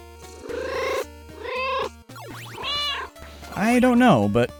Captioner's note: meow, meow